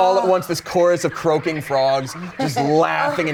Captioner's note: frogs croaking; laughs